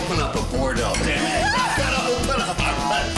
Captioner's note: cheering